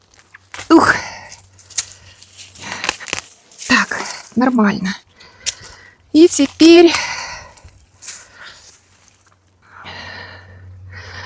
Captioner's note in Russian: вздыхает